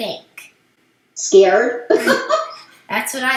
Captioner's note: laughs